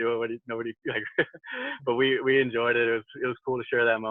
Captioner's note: laughs